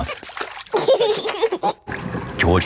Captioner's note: giggling